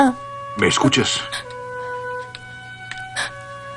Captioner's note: panting